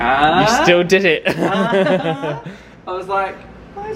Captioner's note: both laugh